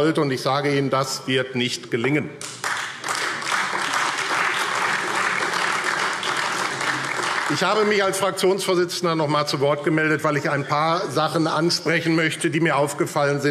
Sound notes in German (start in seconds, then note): 2.4 Beifall AfD